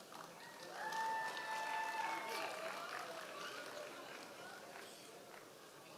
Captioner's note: members of the audience cheering